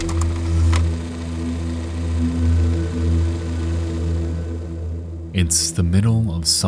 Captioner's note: foreboding music; machine clicks; machine whirring; foreboding music